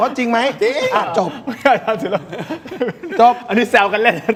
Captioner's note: laughter